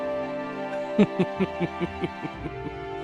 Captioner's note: Ranga's Victory Laugh